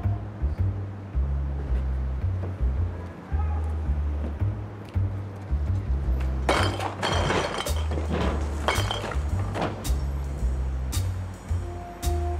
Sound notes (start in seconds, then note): 8.5 bottles clinking